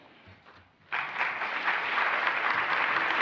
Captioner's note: applause